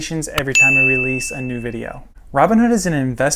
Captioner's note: bell rings